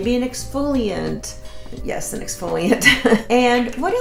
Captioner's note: chuckles